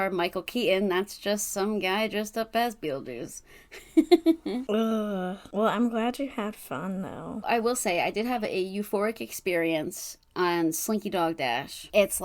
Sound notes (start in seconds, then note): 3.8 laughs